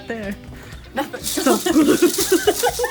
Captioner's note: laughing; hula hoop rattles